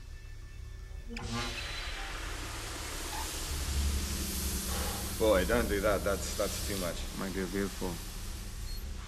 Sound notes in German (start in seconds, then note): 1.8 Knirschendes Geräusch, Zischen nimmt zu